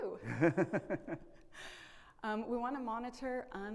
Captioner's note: laughs